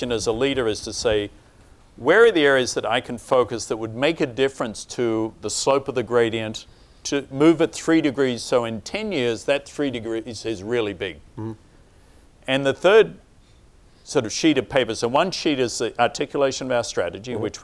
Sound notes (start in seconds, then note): none